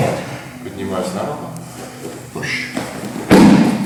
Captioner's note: speaking in a foreign language